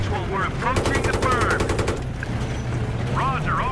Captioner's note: gun blasting